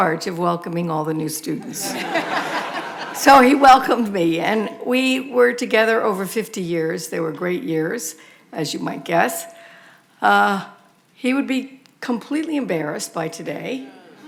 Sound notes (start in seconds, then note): 1.7 audience laughing